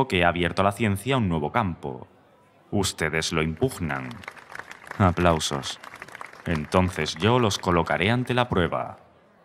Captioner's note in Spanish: Aplausos